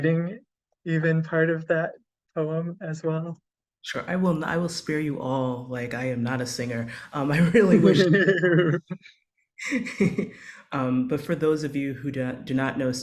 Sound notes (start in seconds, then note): 7.7 laughter